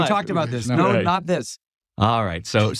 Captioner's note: laugh